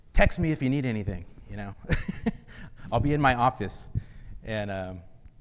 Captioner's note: laughs